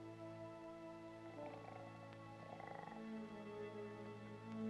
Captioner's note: soft music; snoring; soft music